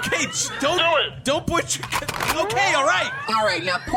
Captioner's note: SFX: The CLINT racks his blaster; SFX: The CLINT racks his blaster again